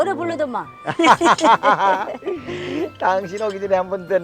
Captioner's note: both laughing